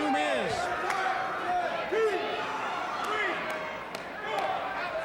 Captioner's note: fans chattering